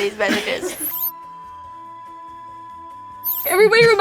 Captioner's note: graphic beeping